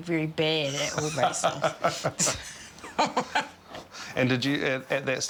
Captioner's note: laughter